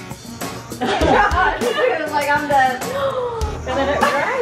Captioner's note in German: lacht